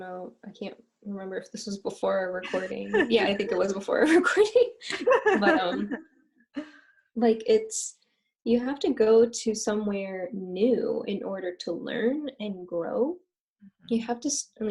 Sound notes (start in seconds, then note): 4.9 laughter